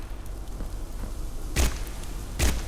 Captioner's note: gun firing